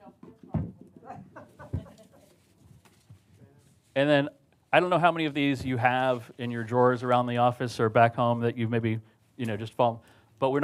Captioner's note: speakers off mic